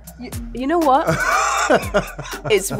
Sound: laughing

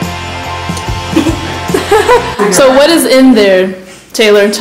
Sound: coughing; laughs

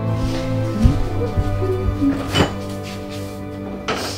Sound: emma gleefully hums to herself

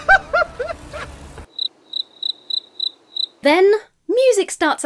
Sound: crickets chirping

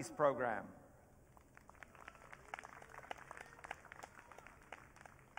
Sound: audience cheering

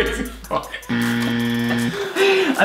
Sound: loud buzzing; laughs; laughs loudly

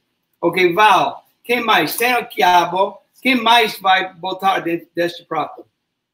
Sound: speaks portuguese

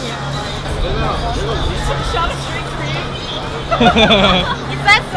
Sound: laugh

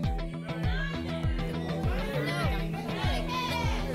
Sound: audience shouting icons

